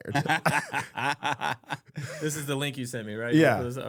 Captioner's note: laughing